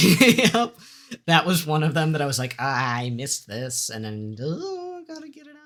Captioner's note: uncomfortable noises